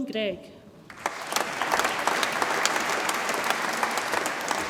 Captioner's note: audience applauds